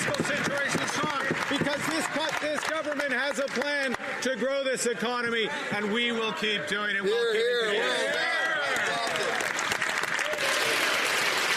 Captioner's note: Question Period audio playing